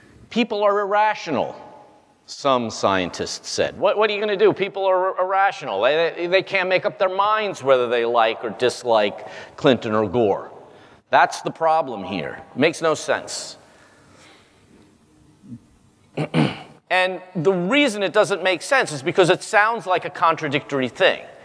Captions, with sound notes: People are irrational. Some scientists said, what do you gonna do? People are irrational, they can't make up their minds whether they like or dislike Clinton or Gore. That's the problem here, it makes no sense. [COUGH] And the reason it doesn't make sense is because it sounds like a contradictory thing.